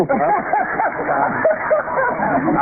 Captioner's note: laughter